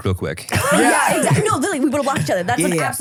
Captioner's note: everybody laughs